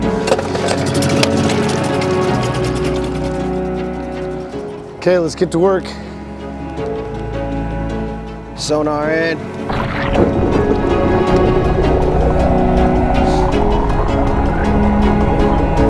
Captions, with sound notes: (boat engine revving) - Okay, let's get to work, sonar in! (dramatic music)